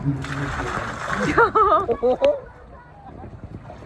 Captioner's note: laughter